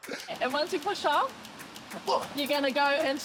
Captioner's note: grunts